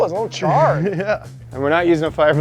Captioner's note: laughs